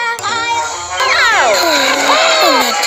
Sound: all yell and groan in pain

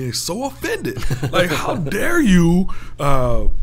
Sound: laughing

